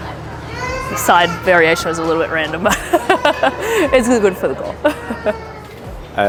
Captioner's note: laughter